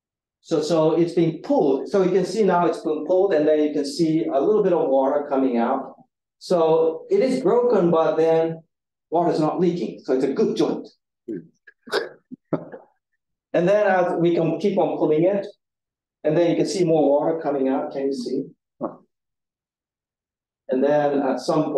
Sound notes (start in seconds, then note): 12.4 audience chuckling; 17.2 audience member grunts